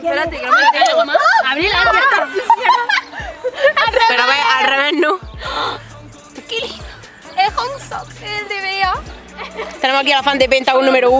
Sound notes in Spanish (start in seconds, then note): 2.4 risas